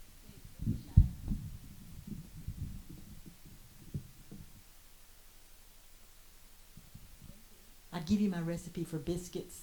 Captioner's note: microphone bumps, silence